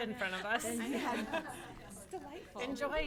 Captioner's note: all laughing